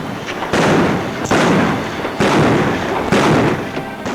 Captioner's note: guns bang